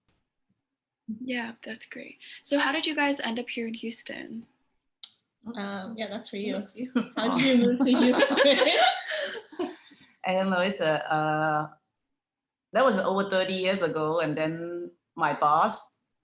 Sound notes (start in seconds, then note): 10.4 laughter